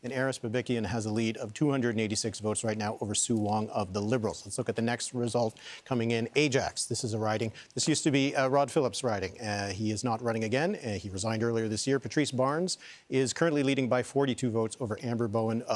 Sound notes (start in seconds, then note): none